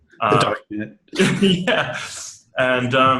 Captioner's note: laughs